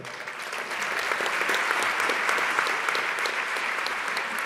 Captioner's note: audience clapping